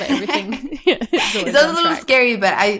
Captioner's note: both laugh